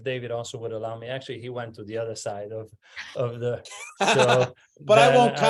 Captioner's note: laugh